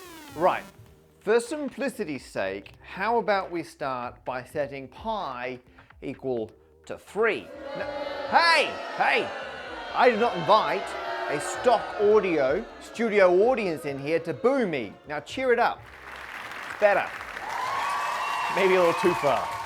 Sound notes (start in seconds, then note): 7.4 crowd boos; 16.2 crowd cheers